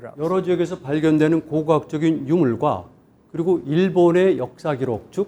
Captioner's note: speaking in Korean